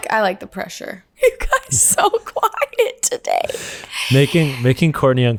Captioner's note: laughs